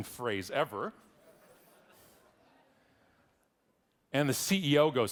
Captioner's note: audience laughing